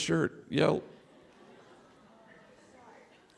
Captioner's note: laughter